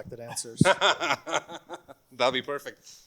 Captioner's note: laughs